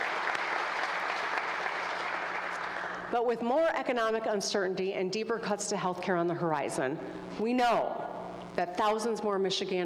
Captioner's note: applause